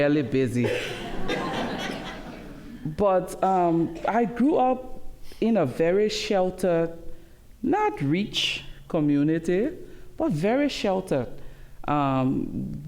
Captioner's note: laughter